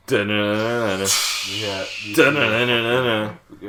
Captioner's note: steam pipe exhaust